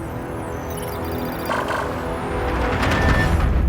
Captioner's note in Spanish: pitido